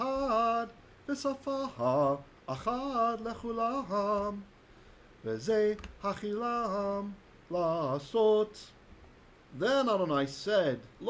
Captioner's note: Hebrew